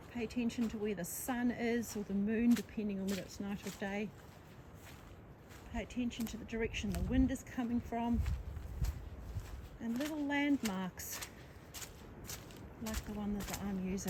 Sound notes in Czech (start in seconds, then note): none